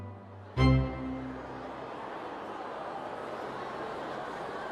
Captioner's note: people chattering